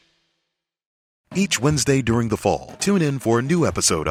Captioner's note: voiceover